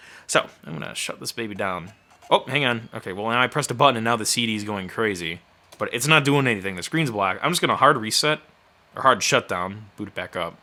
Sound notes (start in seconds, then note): 1.4 computer grinding